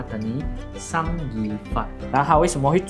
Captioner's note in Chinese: 粵語